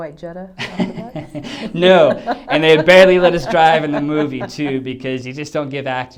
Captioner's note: laughs